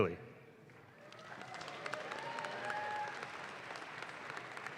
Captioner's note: audience claps